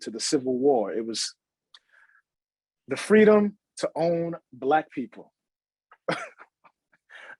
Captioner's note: chuckles